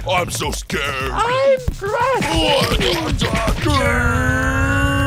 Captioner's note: Eraser screams